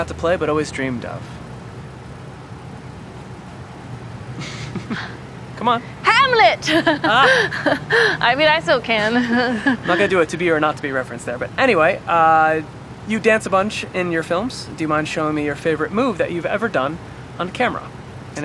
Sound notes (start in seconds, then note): 4.3 chuckling; 6.4 laughing; 9.3 chuckling